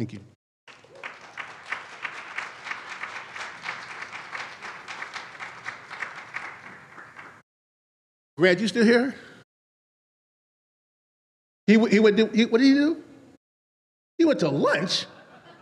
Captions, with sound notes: Thank you. (audience applauds) Red, you still here? What did he do? He went to lunch?